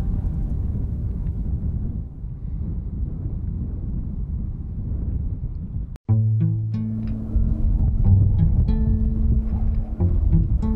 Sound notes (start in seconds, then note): 0.8 wind blowing; 6.0 soft music